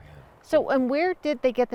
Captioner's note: none